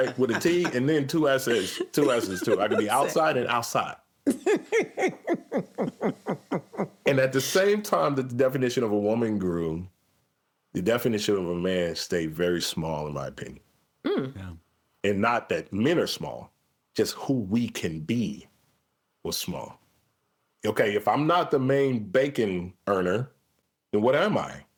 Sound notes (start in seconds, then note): 4.3 everyone laughing